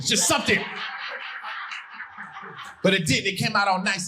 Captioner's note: audience laughing